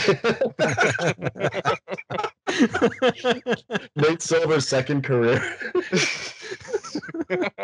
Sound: laughter

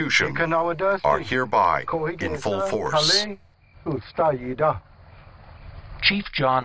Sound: Spoken Cherokee

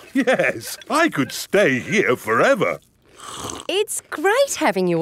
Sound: slurps

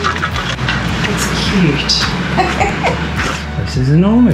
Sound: laughter

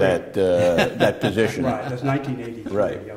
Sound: laughter

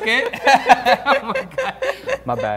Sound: laughing

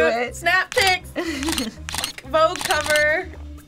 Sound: camera shutter clicks

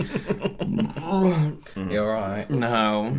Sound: more Burps

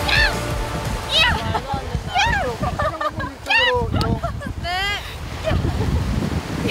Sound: the younger members laugh at unique exclamation

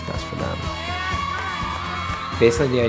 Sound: students cheering

